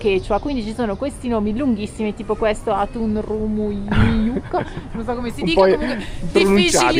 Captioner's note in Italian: risate